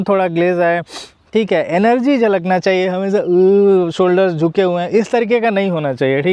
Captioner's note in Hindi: नाक से की जाने वाली आवाज़